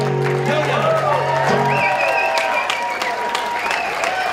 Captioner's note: applause